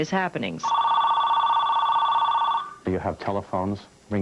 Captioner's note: phone ringing